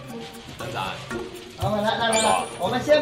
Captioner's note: in Chongqing dialect